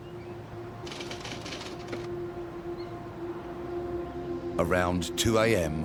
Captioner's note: typewriter clacking